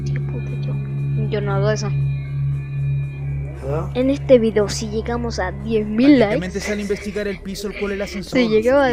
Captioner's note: laughs